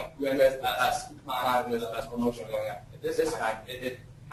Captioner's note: distorted speech